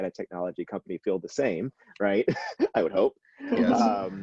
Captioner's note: laughs